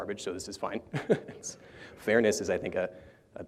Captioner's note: laughter